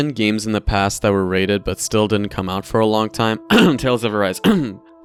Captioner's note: cough